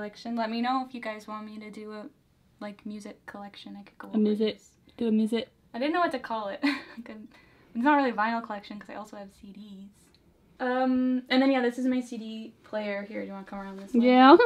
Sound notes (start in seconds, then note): 4.8 mocking